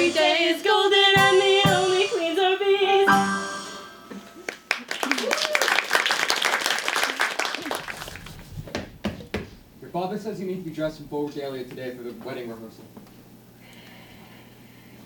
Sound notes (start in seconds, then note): 4.4 applause; 8.7 knocking on door